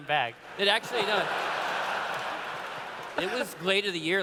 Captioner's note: laughter